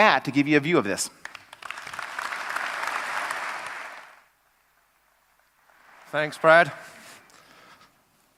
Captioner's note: applause